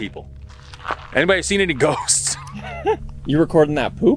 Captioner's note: both laughing